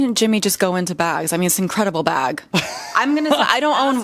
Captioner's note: laughs